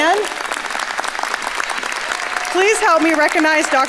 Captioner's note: audience applauding